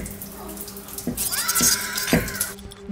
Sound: moans and sound of bed rocking; shrieker noise

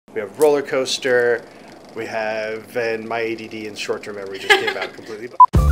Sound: laughs

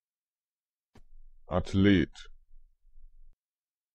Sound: fast Pronunciation

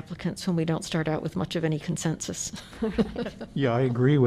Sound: laughter

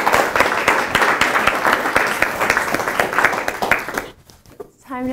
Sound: applause

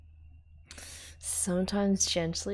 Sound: sharp inhale

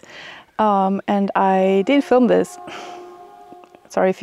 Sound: train honking

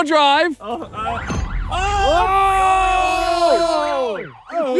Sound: all ohing

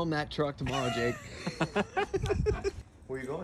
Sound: laughing

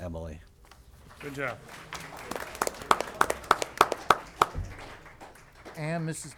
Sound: applause

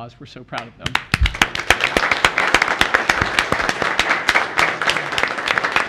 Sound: room applauding

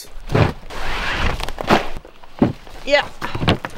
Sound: tarp rustling

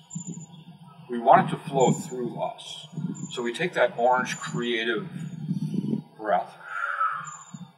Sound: exhale; inhale

